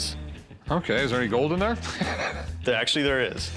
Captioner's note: laughs